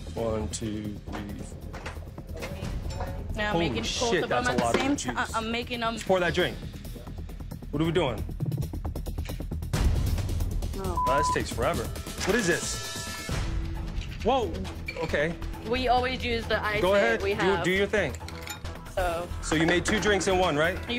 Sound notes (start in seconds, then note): 9.6 tense music; 10.9 beep